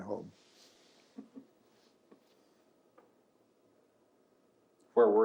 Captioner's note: laughs